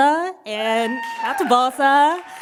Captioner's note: cheers, applause